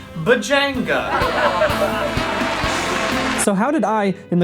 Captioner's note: copious laughter